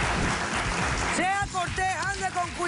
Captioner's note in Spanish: Aplausos